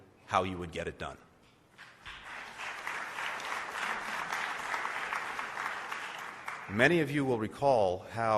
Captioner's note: applause